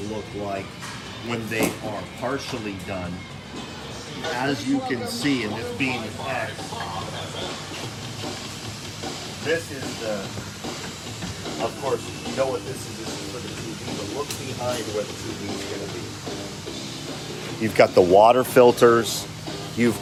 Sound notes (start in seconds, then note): 4.2 murmurs